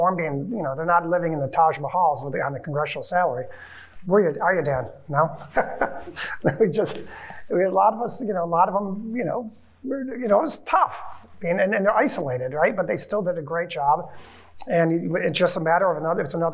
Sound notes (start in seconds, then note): 5.3 chuckling